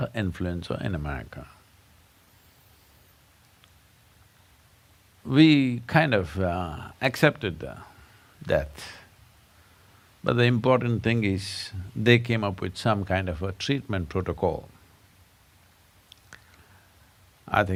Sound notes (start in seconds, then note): none